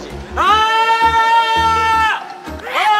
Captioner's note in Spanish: Un fuerte grito